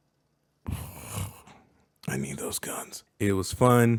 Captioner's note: snorts